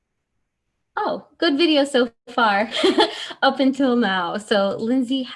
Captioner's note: laughs